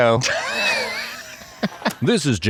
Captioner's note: host laughs